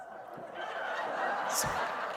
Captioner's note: laughter